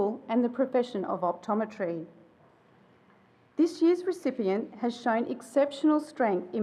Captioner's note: none